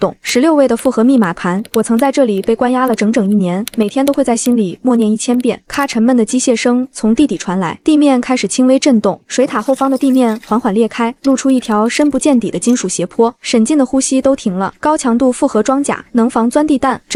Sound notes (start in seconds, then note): 5.2 click